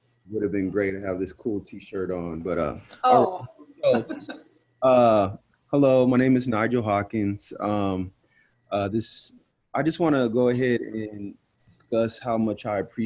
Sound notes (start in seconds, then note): 4.3 laughter